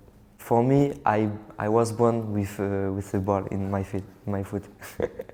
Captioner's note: chuckles